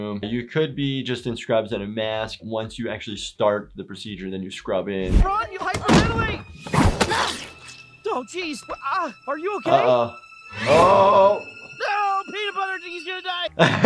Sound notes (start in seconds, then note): 6.9 jar thuds; 13.4 laughing